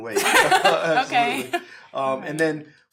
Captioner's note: laughter